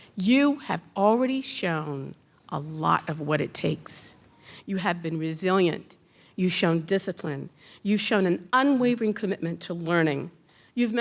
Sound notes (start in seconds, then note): none